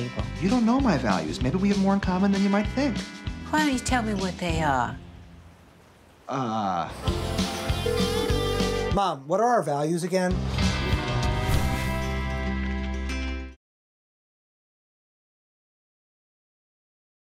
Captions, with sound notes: You don't know my values. Maybe we have more in common than you might think. Why don't you tell me what they are? Uh-- [PHONE RINGING] Mom, what are our values again?